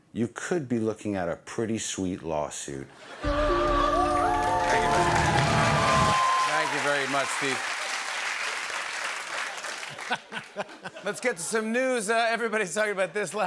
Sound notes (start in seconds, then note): 3.0 laughter; 7.8 applause; 9.9 laughter